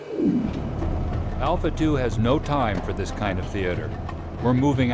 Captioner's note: voiceover